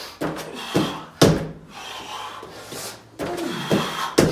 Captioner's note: exhales sharply